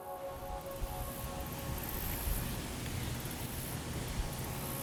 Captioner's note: water rushing